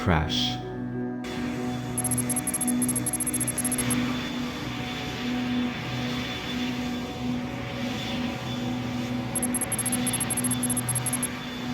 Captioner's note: plane Engine